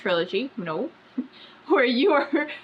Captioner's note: laughs